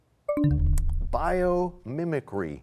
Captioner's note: bell chimes, time expires